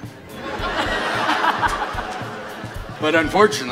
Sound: audience laughs

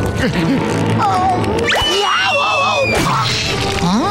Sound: screaming

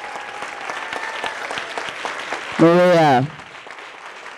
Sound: audience applauding

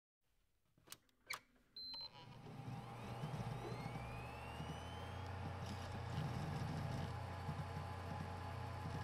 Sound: PC booting

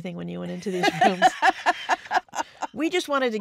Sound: laughs

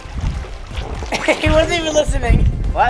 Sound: laughs

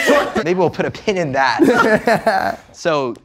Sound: laughing

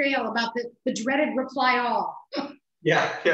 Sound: laughs

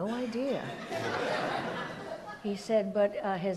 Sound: audience laughs

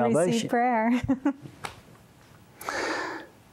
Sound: giggle

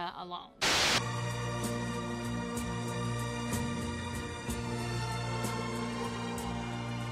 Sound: TV static hisses; swanky ethereal music

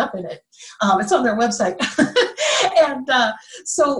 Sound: laughing

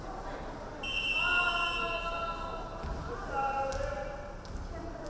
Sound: referee whistling

